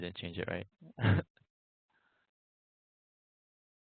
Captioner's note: laughs